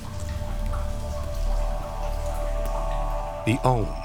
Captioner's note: water sloshes